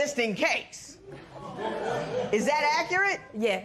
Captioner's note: spectators murmur